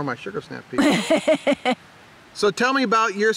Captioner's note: laughing